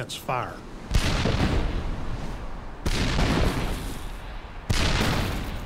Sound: cannon shots exploding

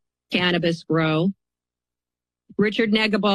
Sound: pause

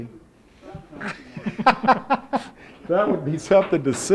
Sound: laughs

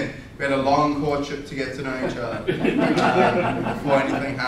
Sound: audience laughter

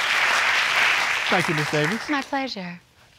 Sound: audience clapping

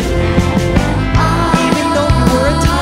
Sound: background ahhs

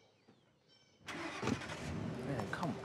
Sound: engine starts

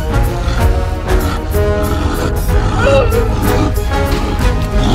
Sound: werewolf snarling; dramatic orchestral music

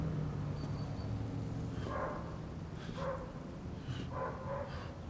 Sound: panting

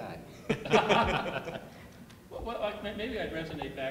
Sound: laughing

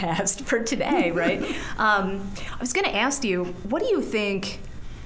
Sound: chuckling

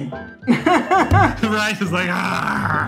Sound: laughs

